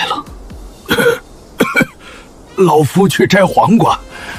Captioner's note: cough cough